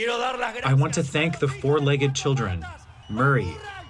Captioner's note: through translator